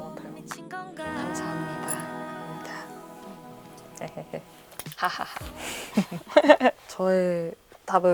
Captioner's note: laughs